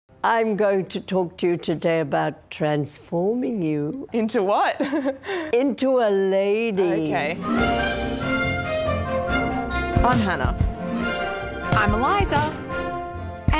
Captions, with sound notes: - I'm going to talk to you today about transforming you. - Into what? (chuckles) - Into a lady. - Okay. (upbeat music) - I'm Hannah. - I'm Eliza.